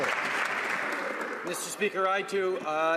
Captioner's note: some Applause